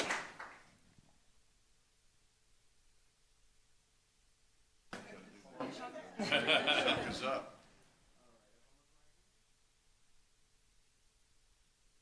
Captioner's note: applause